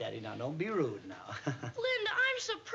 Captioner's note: laughs nervously